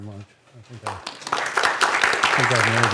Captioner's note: applause